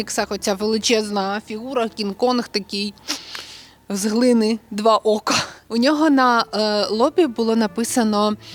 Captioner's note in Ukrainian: сопіння